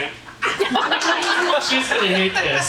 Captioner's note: audience laughing